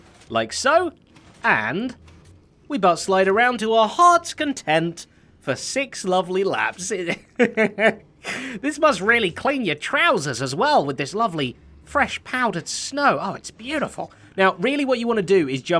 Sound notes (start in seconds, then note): 7.0 chuckles